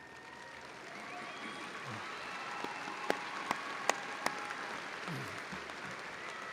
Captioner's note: audience cheering and applauding